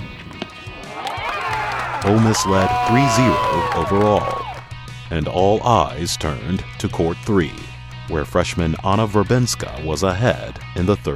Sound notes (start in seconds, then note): 0.1 audience claps